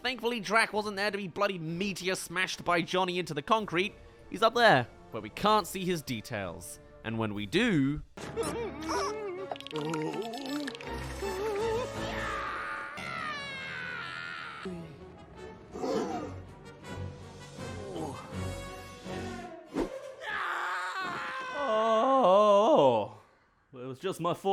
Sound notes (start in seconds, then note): 11.5 screams; 12.2 screams trails off